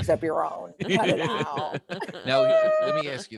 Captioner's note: group laughing